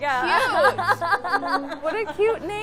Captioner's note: laughing